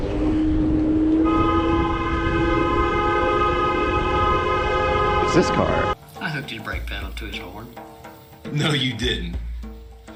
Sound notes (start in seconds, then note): 1.1 honnnnnk